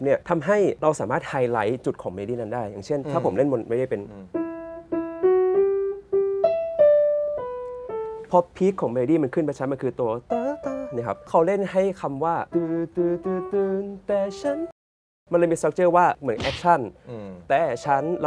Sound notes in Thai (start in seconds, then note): 4.0 เสียงเปียโน; 13.0 ฮัมทำนอง